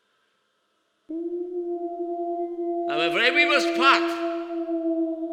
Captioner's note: howling wolves; Dracula speaking